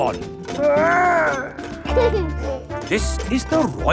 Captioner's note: giggles